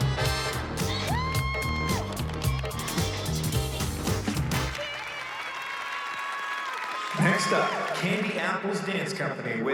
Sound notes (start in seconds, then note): 0.9 moms cheering; 4.2 audience applauding; 4.7 cheering